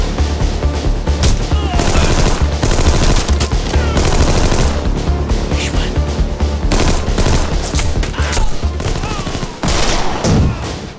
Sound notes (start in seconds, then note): 1.7 firing